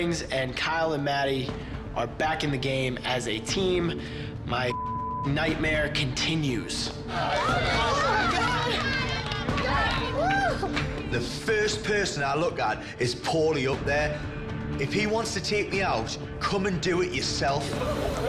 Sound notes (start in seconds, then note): 4.7 beep; 7.1 contestants cheer